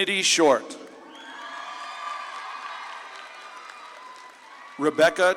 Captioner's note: audience claps and cheers